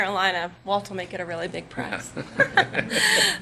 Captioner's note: laughter